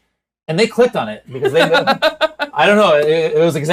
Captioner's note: laughs